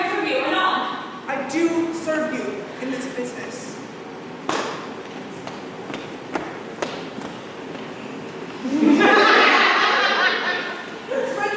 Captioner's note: laughter